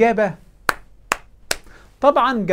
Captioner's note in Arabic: تصفيق